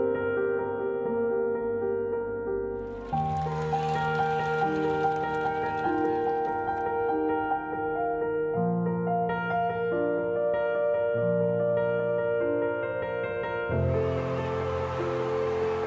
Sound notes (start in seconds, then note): 2.8 cheering; 13.8 cheering